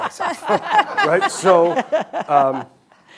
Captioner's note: hosts laughing